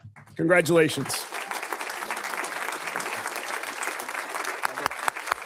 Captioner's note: audience applauds